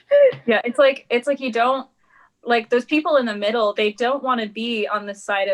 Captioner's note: laughs